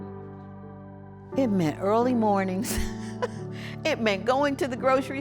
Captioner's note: laughs